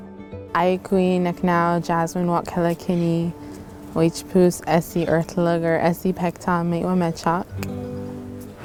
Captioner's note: speaking native language